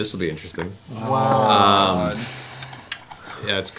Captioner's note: groaning